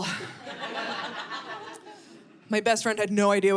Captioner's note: audience laughing